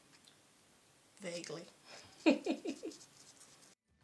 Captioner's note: chuckle